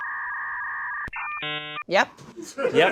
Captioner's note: modem screeching